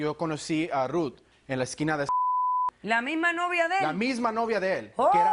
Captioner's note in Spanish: Bip